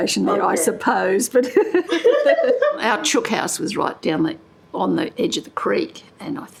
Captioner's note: laughter